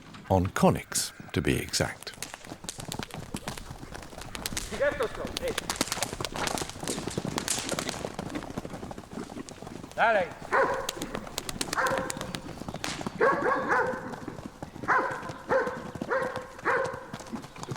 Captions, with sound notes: on koniks, to be exact. [man shouting in Polish] [man speaks in Polish] [dog barking]